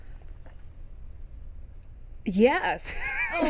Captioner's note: laughing